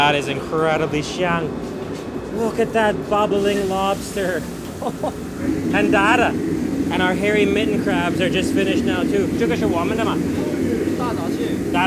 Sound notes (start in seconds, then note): 1.6 foreign language; 4.8 laughs